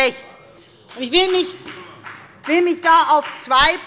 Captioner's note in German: Beifall bei der FDP